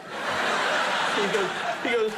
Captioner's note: audience laughing